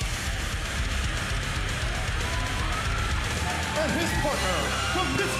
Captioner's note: crowd cheering